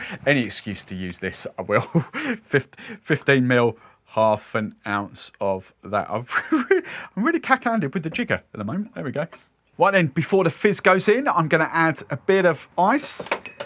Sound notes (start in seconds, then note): 6.3 laughs loudly